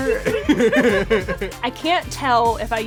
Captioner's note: laughs